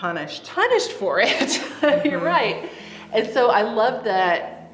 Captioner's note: laughing